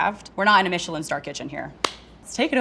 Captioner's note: claps